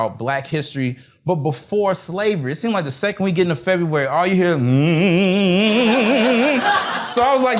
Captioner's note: hmmm